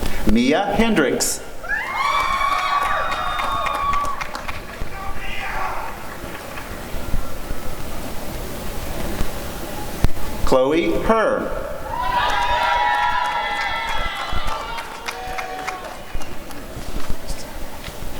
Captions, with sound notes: Mia Hendrix [applause and cheering] Chloe Her [applause and cheering]